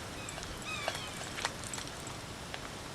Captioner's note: bird